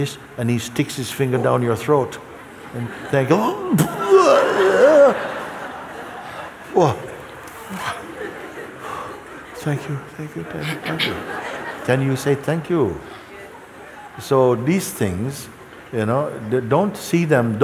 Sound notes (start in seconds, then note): 3.4 mimics vomiting; 7.6 laughter